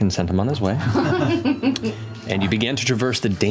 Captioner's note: laughter